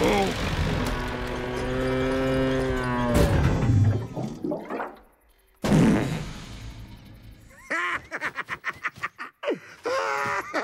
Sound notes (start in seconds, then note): 5.6 farting; 7.5 laughing